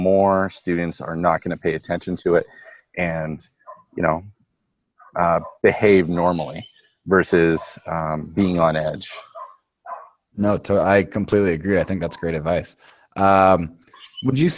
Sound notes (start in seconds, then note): 10.6 voiceover